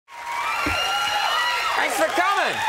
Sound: audience cheering

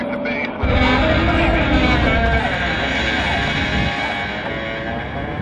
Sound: winch grinding loudly

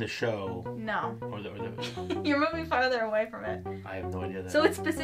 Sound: laughs

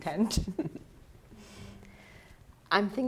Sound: chuckling

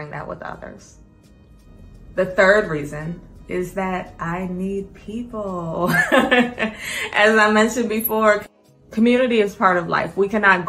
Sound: laughs

